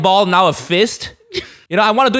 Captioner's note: holds laugh